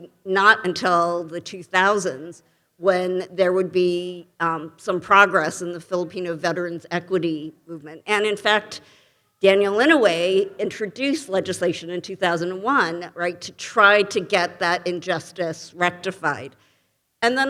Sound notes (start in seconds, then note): none